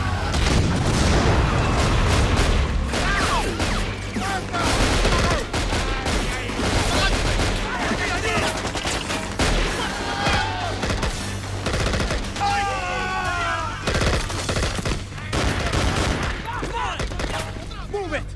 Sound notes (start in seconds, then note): 0.0 engine revving; 0.0 gunshots popping; 0.0 explosion booms; 3.2 gunshots popping; 4.4 people scream in Spanish; 6.9 soldier grunting; 11.3 gunfire clattering; 12.4 person screams; 13.7 gunfire clattering; 15.5 people yelling